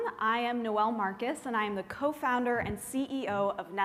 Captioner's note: none